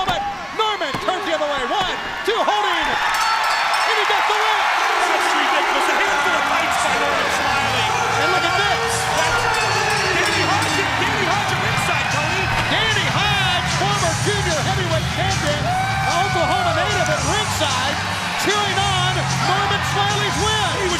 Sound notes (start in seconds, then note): 5.4 bell ringing